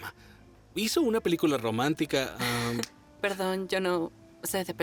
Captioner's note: snaps